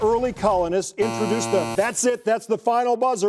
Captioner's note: buzzer